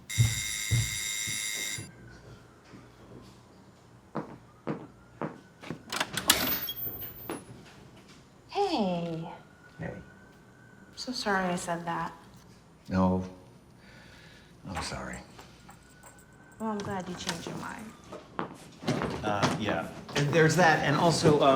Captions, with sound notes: [door bell buzzing] [footsteps approaching] [door creaking] Hey. Hey. I'm so sorry I said that. No, I'm sorry. Well, I'm glad you changed your mind. Uh, yeah, there's that and also,